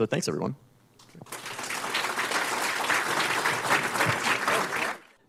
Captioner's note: applause